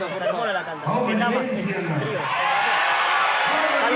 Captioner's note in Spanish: Vítores